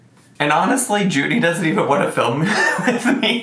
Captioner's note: laughs